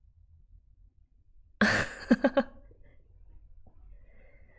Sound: laughs

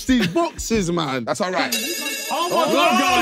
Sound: phone ringing

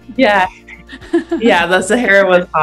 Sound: both laugh

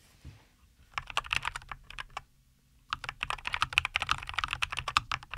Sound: keyboard Clacking Sounds

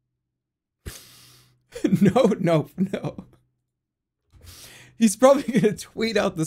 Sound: giggling

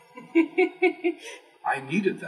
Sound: laugh

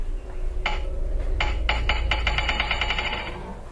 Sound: creaking

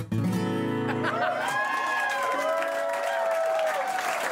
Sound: enthusiastic cheers and applause

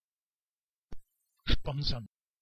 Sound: fast Pronunciation

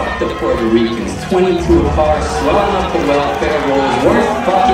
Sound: crowd boos

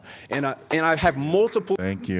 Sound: applause

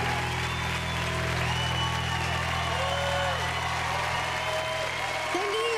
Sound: cheering

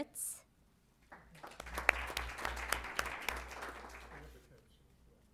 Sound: applause

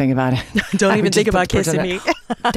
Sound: laughter

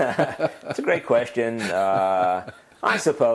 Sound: laugh

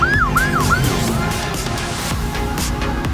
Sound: patrol car zooms

